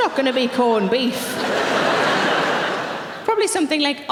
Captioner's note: audience laughing